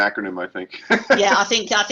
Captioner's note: laughter